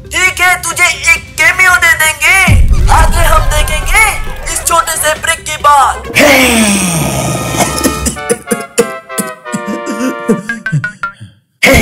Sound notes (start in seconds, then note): 6.2 coughing; 9.2 huffing